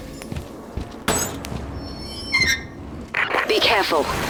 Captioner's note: rusty metal door banging and creaking whilst being opened